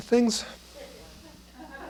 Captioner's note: laughter